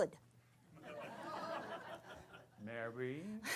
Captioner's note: laughter